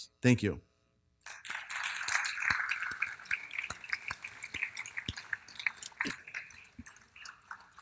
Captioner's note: applause